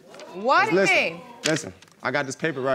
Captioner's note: audience exclaiming